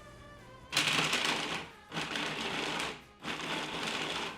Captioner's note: pulsing